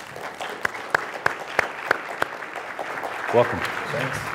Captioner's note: crowd applauding